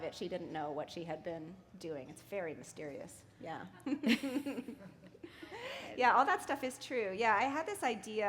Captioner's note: chuckle